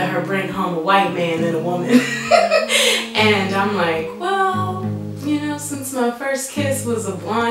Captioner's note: laugh